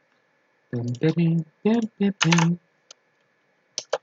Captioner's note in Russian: что-то напевает